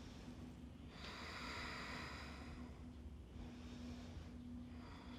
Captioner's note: breathes deeply